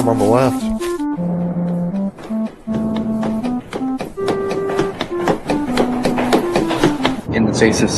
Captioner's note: footsteps gradually intensify